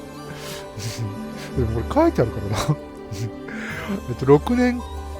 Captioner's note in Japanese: 笑い